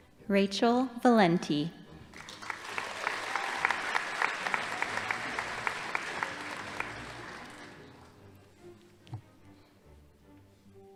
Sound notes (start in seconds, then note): 2.1 audience applauding